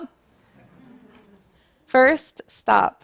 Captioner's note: laughter